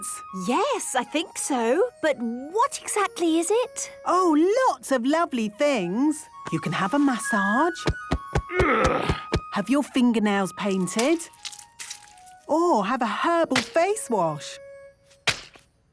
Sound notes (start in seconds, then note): 7.7 thumping; 8.4 moaning